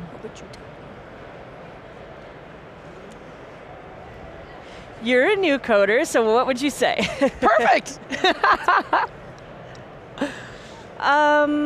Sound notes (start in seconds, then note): 7.0 laughs